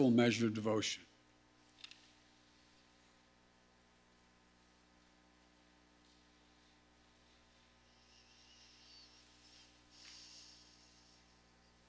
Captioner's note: A moment of silence is taken